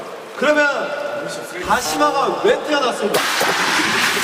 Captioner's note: rubbing